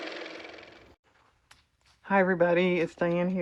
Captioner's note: car motor